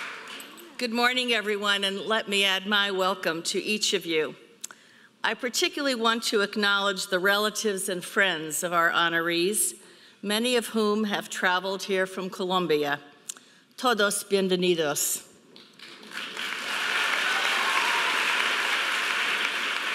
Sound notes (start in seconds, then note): 14.0 speaking in foreign language; 15.6 audience applauding